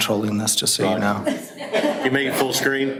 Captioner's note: audience laughter